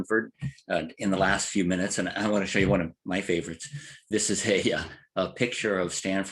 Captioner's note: laugh